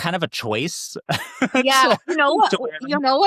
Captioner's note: laughs